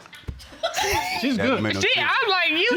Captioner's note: laughing